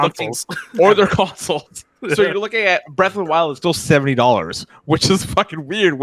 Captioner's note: chuckles